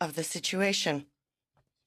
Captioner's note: speaking in French